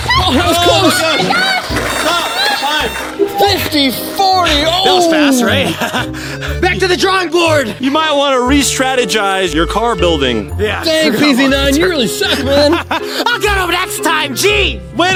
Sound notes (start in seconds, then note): 1.9 beeping